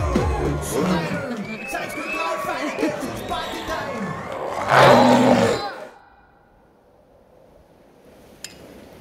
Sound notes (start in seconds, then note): 0.2 music stops; 4.2 growls